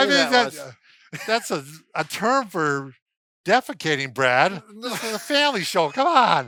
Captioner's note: laughs